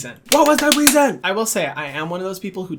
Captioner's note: clapping